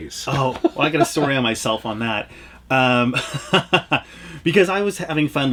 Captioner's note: laughs